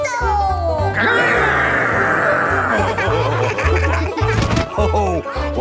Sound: laughing

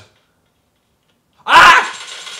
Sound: fricken screams

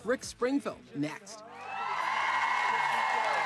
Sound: cheering

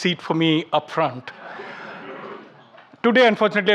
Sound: audience laughing

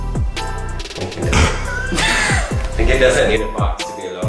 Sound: people laughing

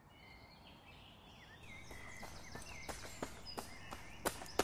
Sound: birds chirping

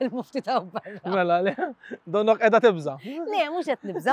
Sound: laughs

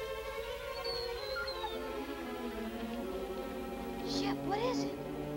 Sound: Shep whining

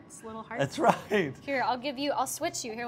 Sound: laughing

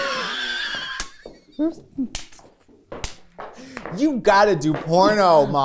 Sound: laughter

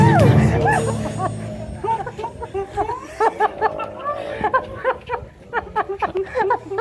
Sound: laughter

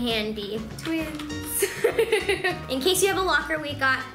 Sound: laughs

